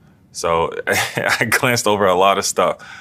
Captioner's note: laugh